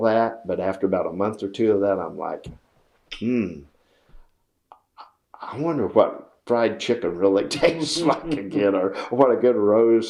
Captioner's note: laughs